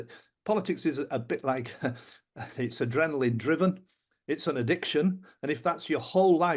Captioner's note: chuckles